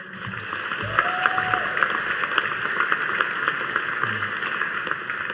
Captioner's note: audience cheering and applauding